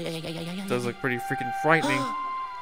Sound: voiceover

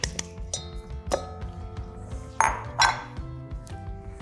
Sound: banging

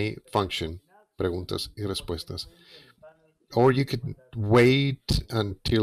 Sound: speaking in foreign language

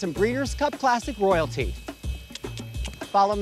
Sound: clicks tongue

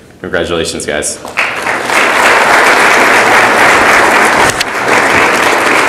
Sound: audience applauds

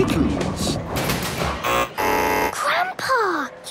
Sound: buzzing

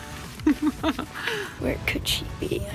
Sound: woman laughing

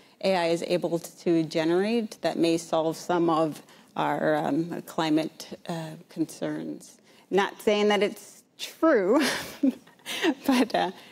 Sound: laughs

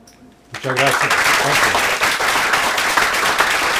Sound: applause

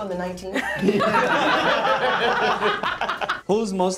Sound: group laughing

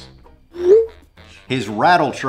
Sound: text whooshing

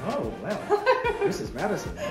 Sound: laughing

